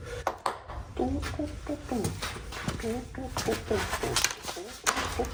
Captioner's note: continues humming the same song